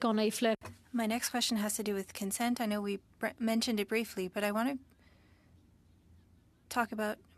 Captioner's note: speaking French